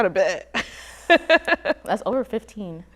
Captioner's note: laughs